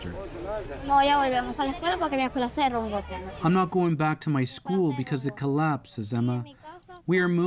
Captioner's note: speaking alternate language